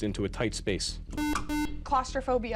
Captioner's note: beep